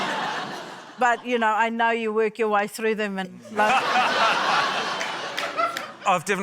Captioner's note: laughter; laughter